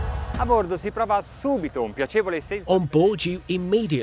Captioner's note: speaking in foreign language